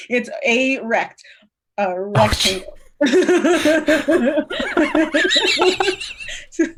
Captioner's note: laughter